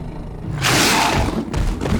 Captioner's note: roars